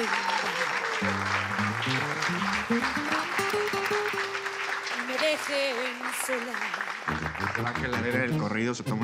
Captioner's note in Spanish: Aplausos